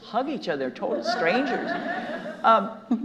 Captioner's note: audience laughing